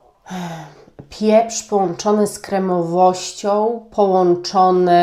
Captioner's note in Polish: westchnienie